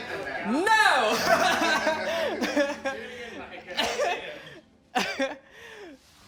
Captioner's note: laughing